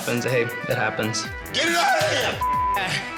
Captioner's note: beep